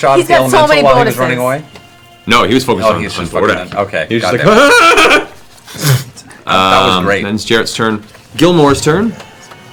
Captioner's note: yells